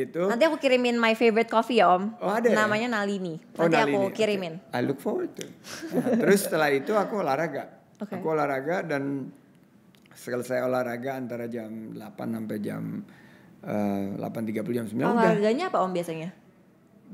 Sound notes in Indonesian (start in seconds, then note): 5.7 tertawa